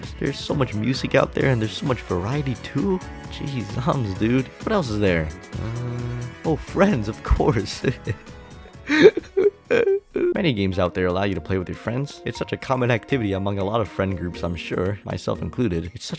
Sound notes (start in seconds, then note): 8.5 chuckles; 8.6 quietly sobs